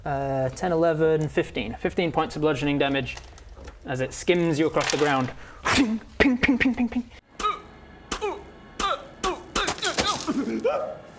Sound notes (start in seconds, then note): 6.2 ping ping ping ping ping